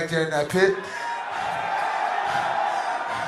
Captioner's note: crowd Cheering